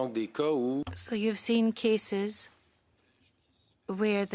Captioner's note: speaking in French